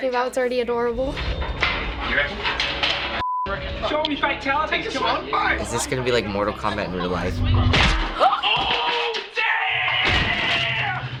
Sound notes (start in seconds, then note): 7.4 pan smacks; 8.1 gasps